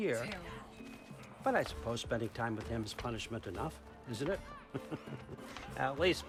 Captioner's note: laughing; laughs